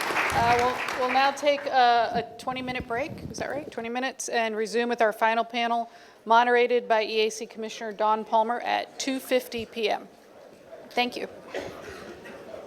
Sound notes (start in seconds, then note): 0.0 applause